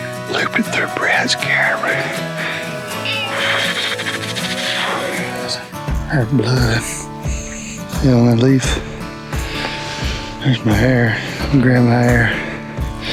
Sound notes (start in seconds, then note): 2.5 shivers